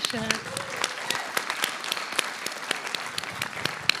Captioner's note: applause